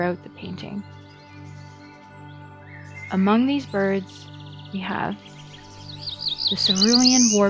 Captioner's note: chirping intensifies